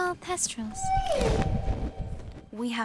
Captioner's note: thestral wailing